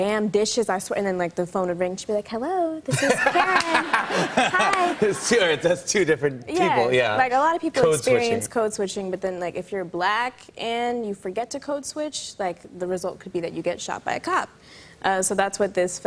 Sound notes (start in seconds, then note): 1.8 sweetly; 2.9 laughter